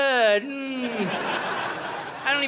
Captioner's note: audience laughing